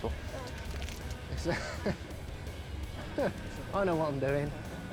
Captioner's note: chuckling